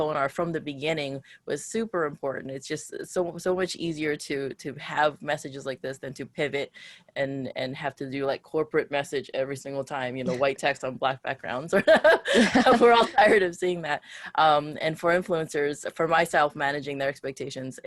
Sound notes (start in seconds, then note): 11.8 laughs